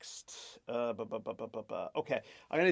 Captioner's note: talking gibberish